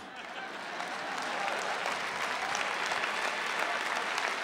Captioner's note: applause